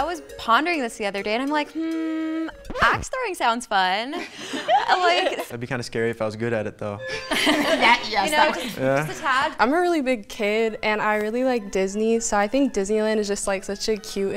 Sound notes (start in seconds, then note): 4.1 women laugh; 7.1 women laugh